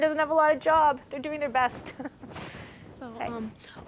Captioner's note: chuckling